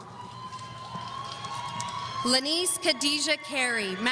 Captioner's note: audience cheering